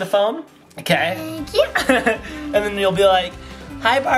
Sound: chuckles

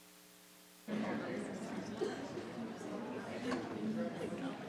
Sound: people chattering

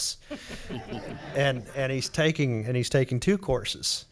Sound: audience laughs

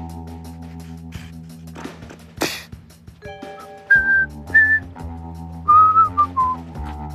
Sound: suddenly whistling

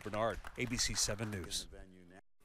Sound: applause

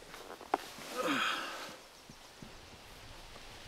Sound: sighs

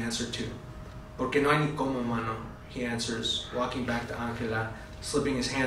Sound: spanish

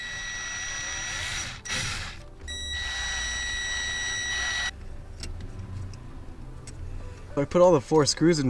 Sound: drilling

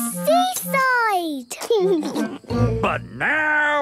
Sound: laughing

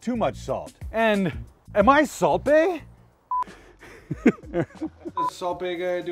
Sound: laughs

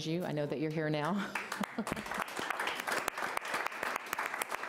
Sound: applause

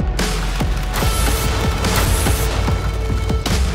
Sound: trap springs

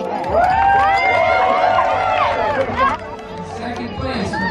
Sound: crowd cheering

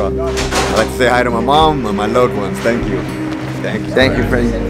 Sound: people chattering

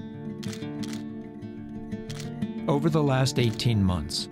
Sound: camera shutter clicking

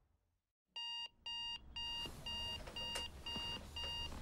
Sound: alarm beeping

